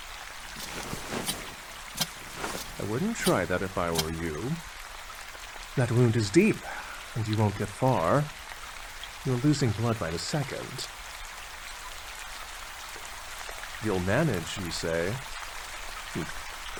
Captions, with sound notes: (rustle of jacket and slow footsteps walking away) I wouldn't try that if I were you. That wound is deep, and you won't get far. You're losing blood by the second. 'You'll manage' you say? Hmph.